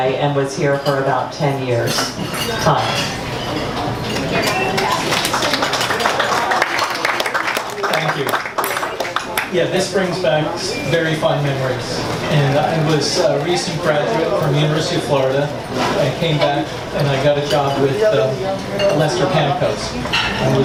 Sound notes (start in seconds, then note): 4.3 audience applauds